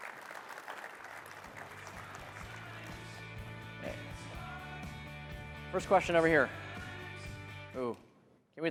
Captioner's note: applause